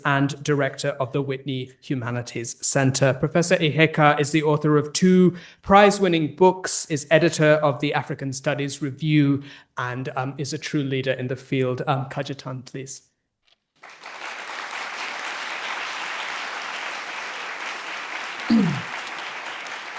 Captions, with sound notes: and Director of the Whitney Humanities Center. Professor Iheka is the author of two prize-winning books, is Editor of the African Studies Review and is a true leader in the field. Cajetan, please. (participants applauding)